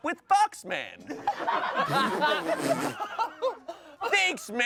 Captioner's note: everyone laughs